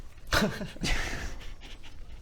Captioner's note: cracking up